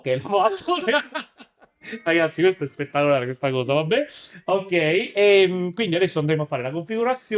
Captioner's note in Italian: risate